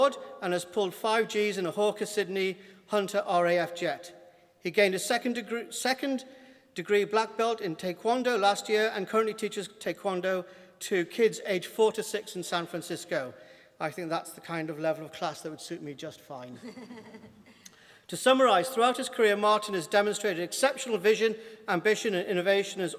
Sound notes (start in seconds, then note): 16.5 laughter